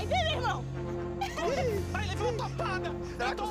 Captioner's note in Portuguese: risos